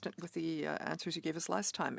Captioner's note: speaking French